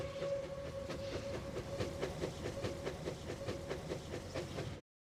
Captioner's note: train steam chugging